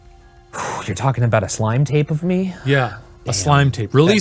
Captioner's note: sighs